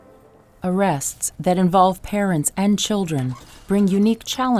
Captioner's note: voiceover